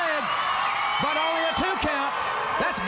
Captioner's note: crowd cheering